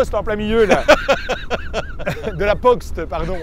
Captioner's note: laughter